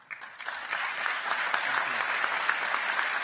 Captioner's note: applause